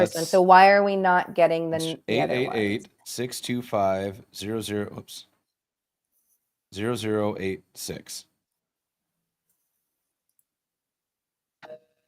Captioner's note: busy signal